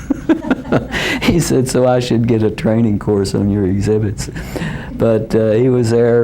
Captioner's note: laughter